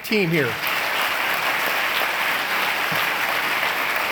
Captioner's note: applause